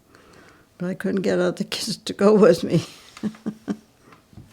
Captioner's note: laughs